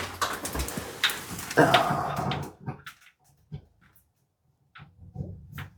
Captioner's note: sighs out of focus